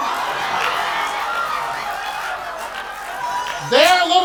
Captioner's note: audience laughing